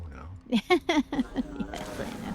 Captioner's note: laughing